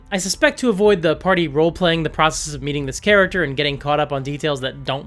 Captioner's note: none